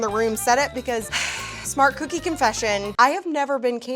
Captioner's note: sighs